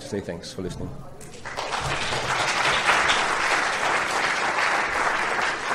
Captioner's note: applause